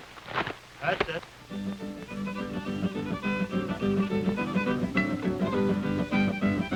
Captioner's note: uptempo instrumental music; crowd chattering